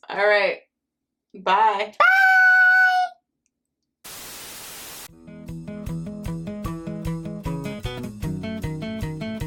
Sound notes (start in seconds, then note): 4.0 white noise hissing; 5.3 upbeat music